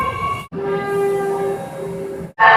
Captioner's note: air Horn